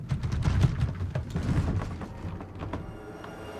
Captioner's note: low rattling